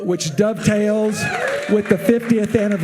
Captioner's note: audience cheering and applauding